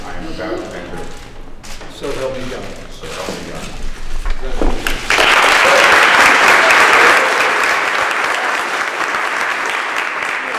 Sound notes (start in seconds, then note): 4.8 applause